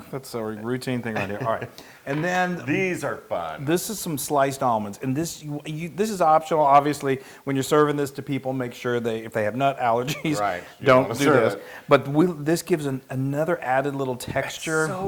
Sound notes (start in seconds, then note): 1.1 laugh; 10.0 laugh